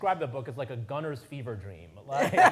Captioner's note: all laughing